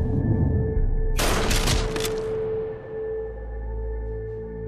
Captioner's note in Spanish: Detonación de disparo